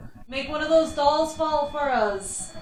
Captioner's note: Rem Pod ringing